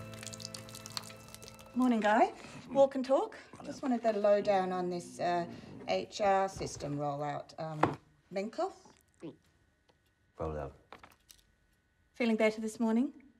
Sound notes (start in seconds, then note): none